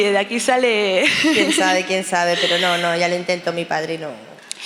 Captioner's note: laughs